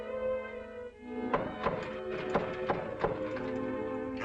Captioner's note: knocking on door